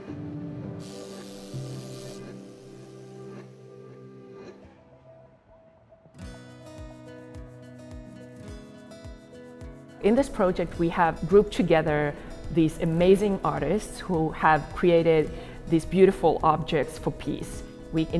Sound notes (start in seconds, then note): 0.8 torch buzzes; 6.2 happy music plays